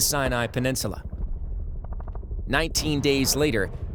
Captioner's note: shelling and war sounds